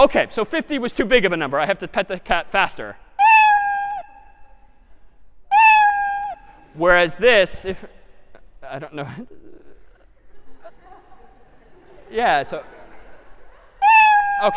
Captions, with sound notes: OK, so 50 was too big of a number. I have to pet the cat faster. [MEOWING] Whereas this, if-- I don't know-- [LAUGHTER] Yeah, so-- [MEOW]